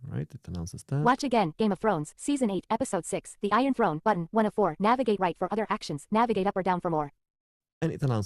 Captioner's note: screen Reader talking